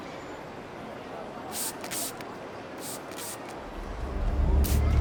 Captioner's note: spray sound